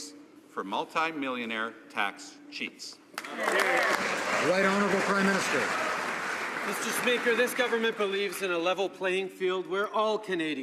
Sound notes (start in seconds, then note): 6.3 some Applause